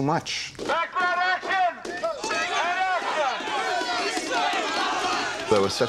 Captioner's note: crowd noise